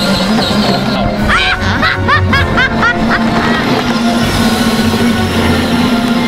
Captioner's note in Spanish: risa malvada